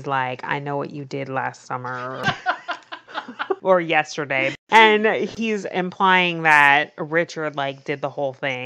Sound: laughs

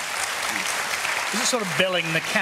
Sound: applause

